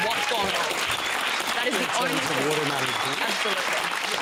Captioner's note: cheering and applause